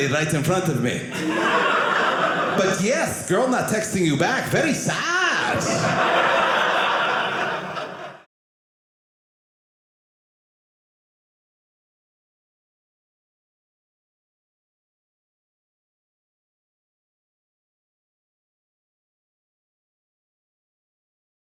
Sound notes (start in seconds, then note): 5.3 audience laughing